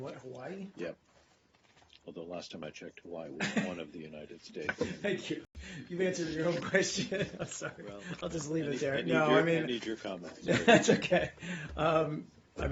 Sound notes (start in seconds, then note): 3.4 laughter